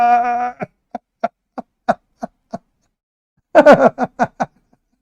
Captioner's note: Ketawa